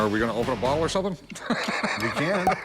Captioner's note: laughs